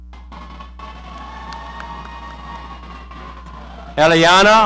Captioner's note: audience cheering